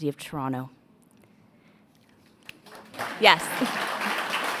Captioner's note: a pplause